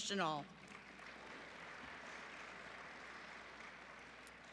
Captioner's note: applause